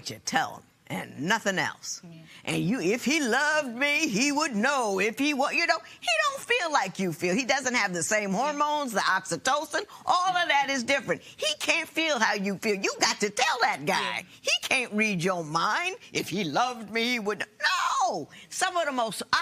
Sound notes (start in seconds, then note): none